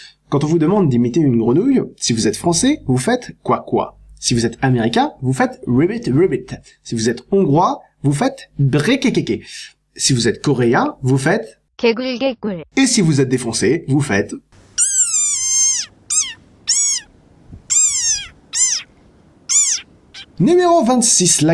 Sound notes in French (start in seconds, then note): 14.5 cri de la rain frog, genre "piiiiiiuiiiiiiipiupiu"